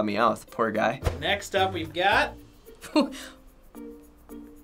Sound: scoffing

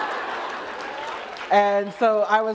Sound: laughter

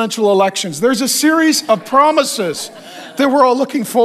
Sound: congregation laughs

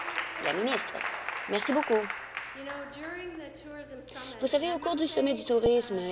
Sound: applause

